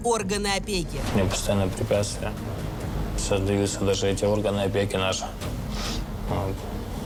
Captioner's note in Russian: фыркает